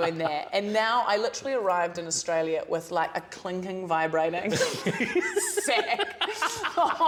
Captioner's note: laughs